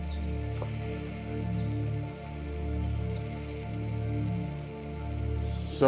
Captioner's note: birds chirping; gentle music continues